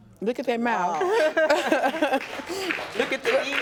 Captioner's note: laughing